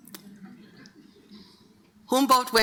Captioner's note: audience laughing